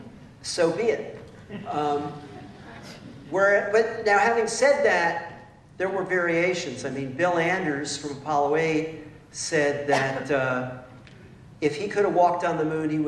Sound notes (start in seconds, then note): 1.4 laughter